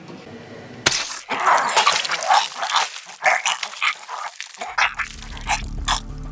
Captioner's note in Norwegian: gurgle blod-lyder